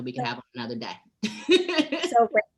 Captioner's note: laughing